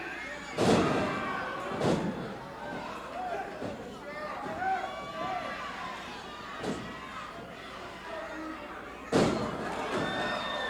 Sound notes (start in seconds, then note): 5.6 crowd chattering